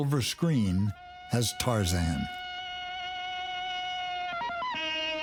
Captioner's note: Tarzan bellows